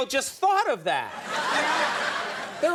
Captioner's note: audience laughing